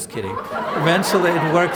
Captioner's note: laughter